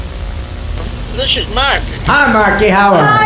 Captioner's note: phone voice